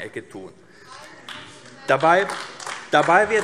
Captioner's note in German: Beifall AfD - Zurufe DIE LINKE